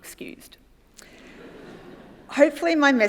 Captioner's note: audience laughs